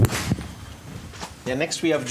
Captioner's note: indistinct conversation